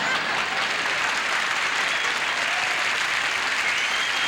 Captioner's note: audience laughing; audience applauding